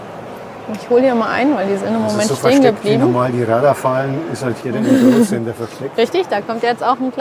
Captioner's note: laughter